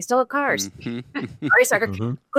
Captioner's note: laughs